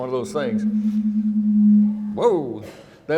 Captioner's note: microphone humming